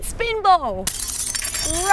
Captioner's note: glass shattering